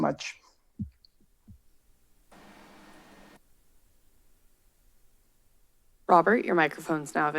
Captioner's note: silence